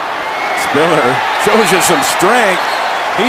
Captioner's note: whistle